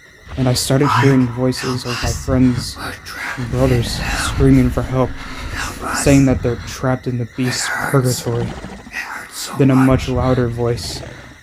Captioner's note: disembodied voices of his friends and brothers screaming